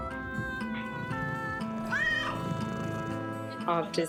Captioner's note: cat purrs, meows